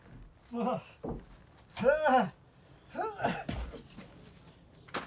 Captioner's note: grunting